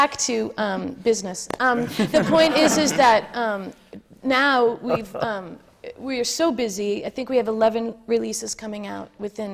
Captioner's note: laughter